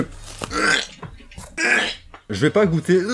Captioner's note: retches